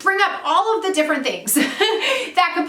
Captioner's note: laughs